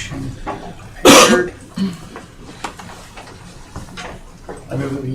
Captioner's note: coughing